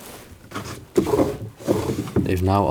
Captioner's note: opening and closing drawers